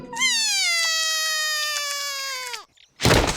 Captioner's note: cries